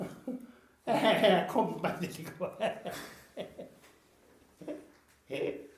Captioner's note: laughs